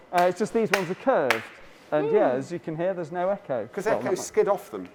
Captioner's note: claps her hands